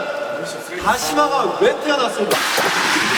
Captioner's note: rubbing